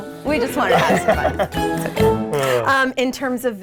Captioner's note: laughing